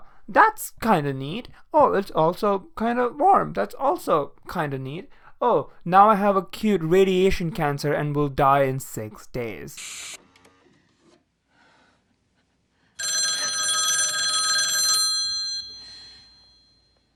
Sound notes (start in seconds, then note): 9.7 telephone